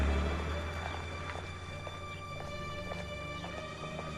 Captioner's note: engine starts